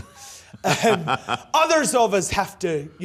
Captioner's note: laughs